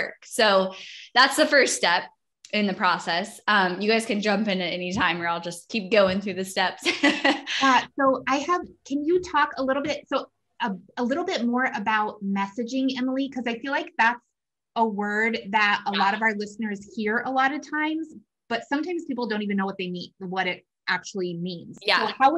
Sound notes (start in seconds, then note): 8.2 laughs